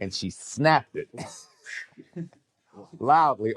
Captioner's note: men chuckle